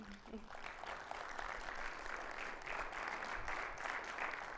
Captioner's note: audience applauds